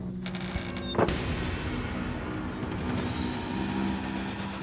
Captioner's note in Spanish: Crujido